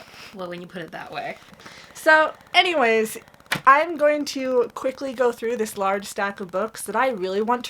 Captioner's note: taps book stack